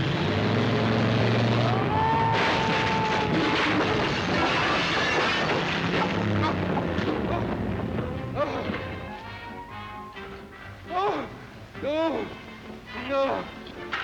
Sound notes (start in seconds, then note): 0.1 car engine revving; 1.6 Ollie screams; 7.4 gentle music; 7.6 Ollie groaning